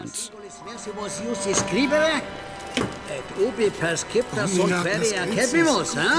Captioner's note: men speaking foreign language